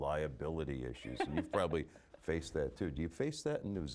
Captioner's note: laughing